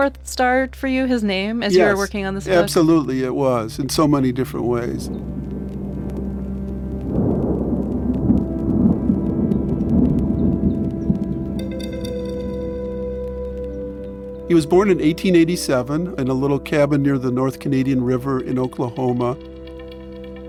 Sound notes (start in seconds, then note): 5.2 thunder rumbling